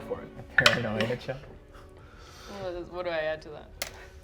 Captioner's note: die rolls